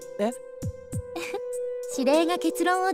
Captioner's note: giggle